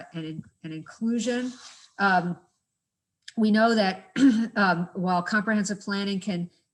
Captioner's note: cough